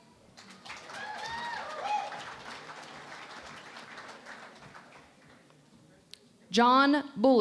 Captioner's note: cheering and Applause